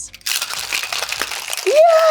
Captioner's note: container rattles